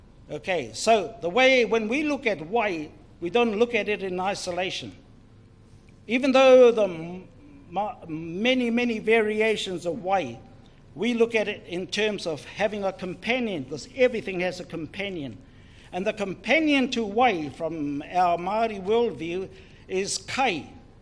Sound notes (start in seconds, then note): none